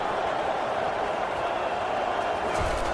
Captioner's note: crowd cheering